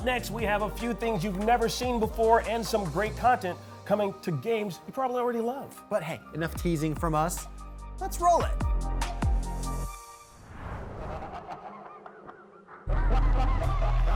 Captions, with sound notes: Now up next, we have a few things you've never seen before, and some great content coming to games you probably already love. But hey, enough teasing from us. Let's roll it. [demented laughter]